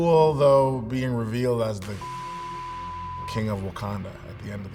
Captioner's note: long beep